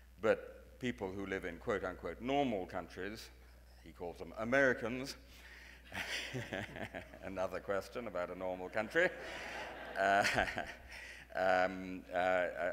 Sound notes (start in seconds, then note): 5.9 laughing; 8.8 audience laughing